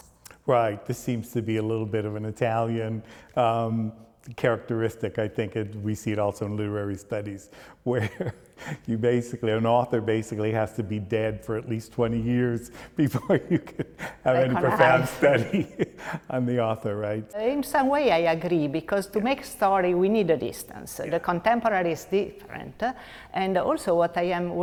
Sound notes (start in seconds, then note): 8.0 chuckles; 13.1 laughs